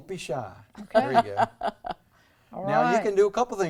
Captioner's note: laughs